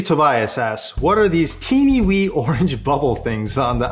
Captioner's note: laughs